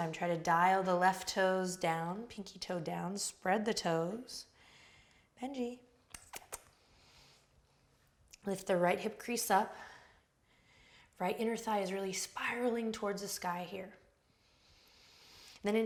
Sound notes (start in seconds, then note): 6.1 clicks tongue